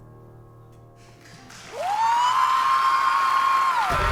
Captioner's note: cheering